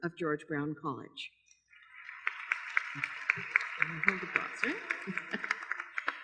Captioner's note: applause